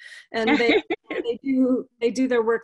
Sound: laughing

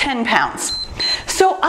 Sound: timer beeps

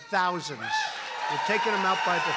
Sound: applause

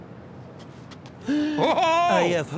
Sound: gasp

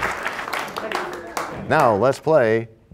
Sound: applause

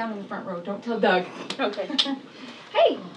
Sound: chuckles

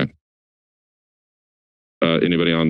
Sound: silence

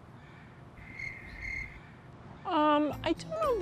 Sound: crickets chirping

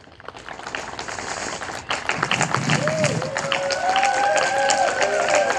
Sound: audience applauding and cheering

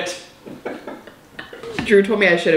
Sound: both laugh

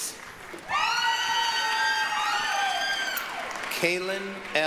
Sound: applause, cheering

